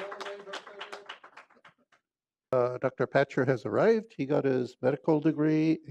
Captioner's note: applause